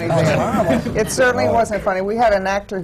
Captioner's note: laughter